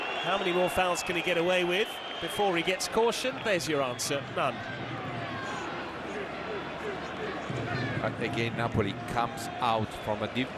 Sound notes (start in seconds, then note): 2.9 audience oohs